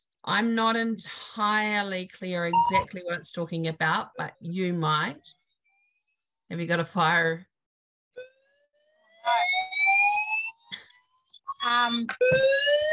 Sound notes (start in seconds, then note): 5.2 fire alarm siren